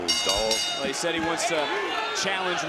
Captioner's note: bell dings